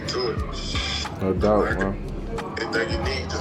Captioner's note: group chattering